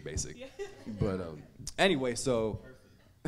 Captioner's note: audience laughing